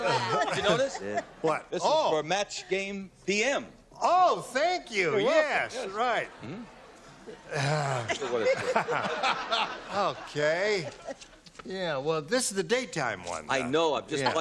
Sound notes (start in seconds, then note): 7.5 sighing; 8.0 laughter